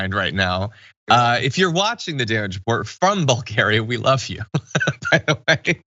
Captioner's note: laugh